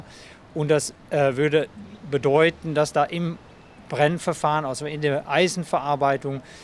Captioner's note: continues speaking in foreign language